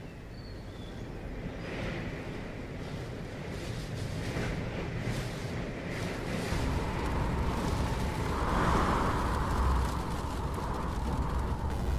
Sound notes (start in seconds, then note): 1.9 wind blowing